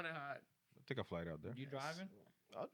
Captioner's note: speaking In Foreign Language